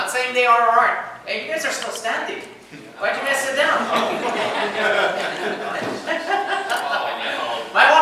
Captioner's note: laughter